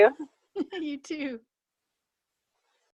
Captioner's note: laughs